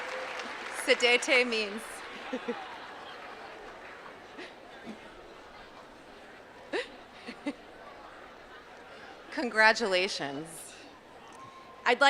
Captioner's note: non-english